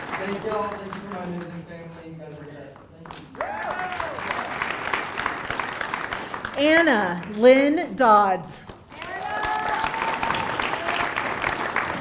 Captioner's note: applause